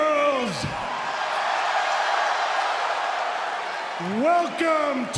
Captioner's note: crowd cheers